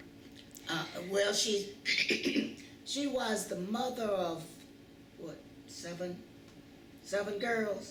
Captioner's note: clears throat